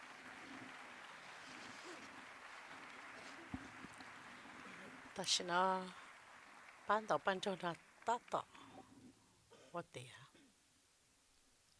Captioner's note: applause